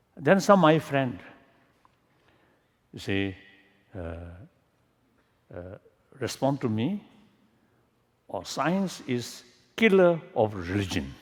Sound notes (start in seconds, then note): none